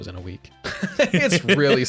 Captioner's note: both laughing loudly